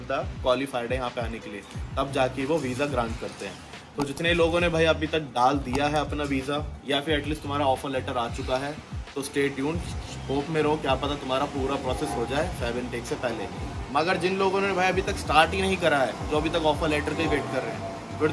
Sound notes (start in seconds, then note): 12.6 plane flies overhead